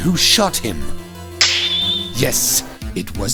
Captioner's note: snap!